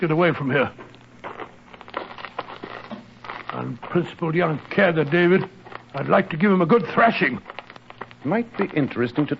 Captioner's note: steps